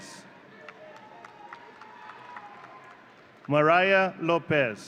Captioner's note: audience cheering